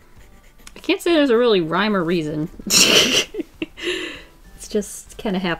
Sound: laughs

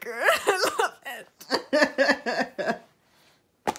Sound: more laughter

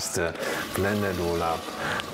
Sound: blender

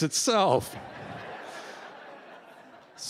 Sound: laughter

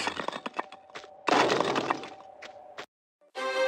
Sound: bam

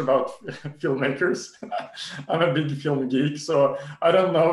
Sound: laughs

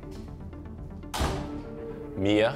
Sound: door shuts

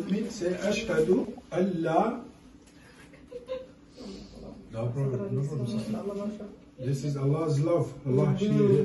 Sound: she is crying

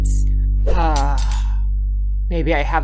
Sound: Album sighs again

